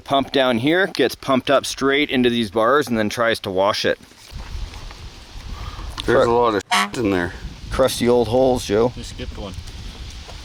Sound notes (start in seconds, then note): 6.7 beep